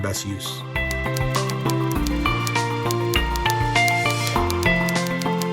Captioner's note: typing sounds